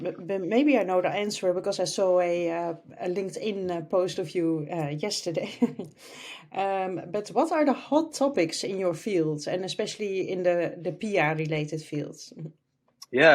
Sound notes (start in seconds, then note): 5.4 laughs